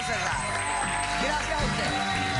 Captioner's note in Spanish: aplausos